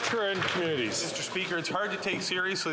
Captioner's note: some Applause